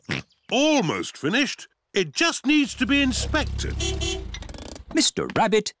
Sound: horn beeps

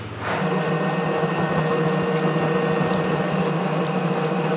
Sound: machine noise

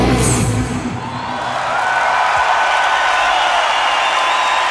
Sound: audience cheering

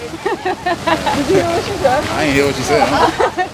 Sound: laughing

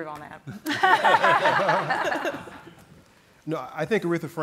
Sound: all laugh

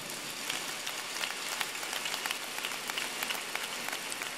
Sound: applause

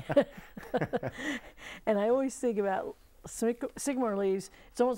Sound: laughing

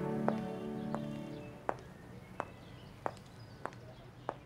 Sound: footsteps

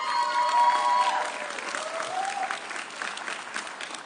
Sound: audience cheering

